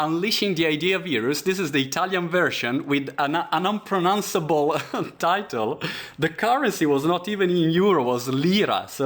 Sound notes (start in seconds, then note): 4.6 laughing